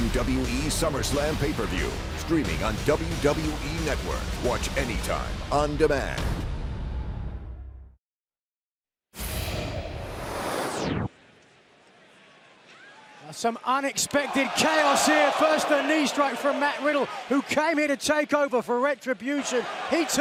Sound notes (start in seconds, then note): 11.5 crowd chatter